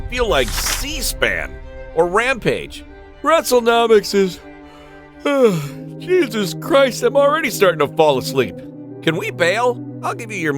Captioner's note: yawn